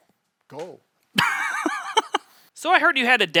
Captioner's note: laughs